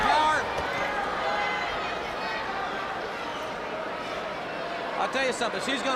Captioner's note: crowd chatter